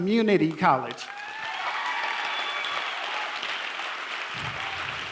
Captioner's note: applause